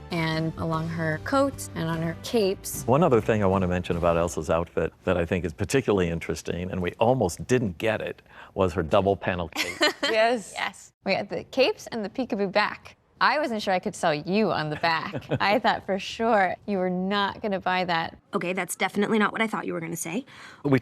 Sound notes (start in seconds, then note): 9.5 laughs; 14.9 laughs